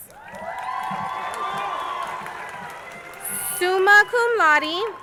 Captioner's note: crowd cheering